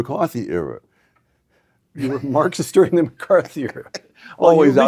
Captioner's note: laugh